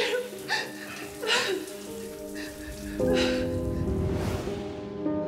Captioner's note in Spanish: sollozos